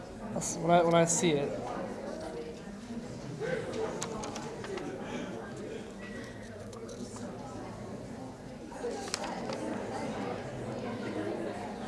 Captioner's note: audience chatter